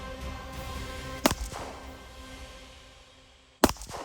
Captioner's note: gun shots; gun shots